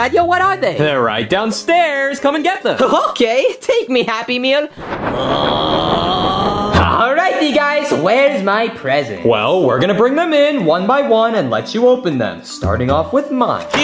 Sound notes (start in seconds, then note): 4.8 groaning